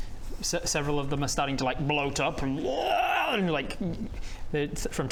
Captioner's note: rwaaarggh